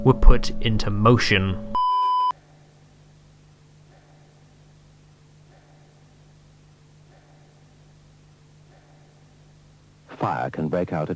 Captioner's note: silence